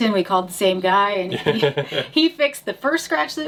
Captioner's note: laughs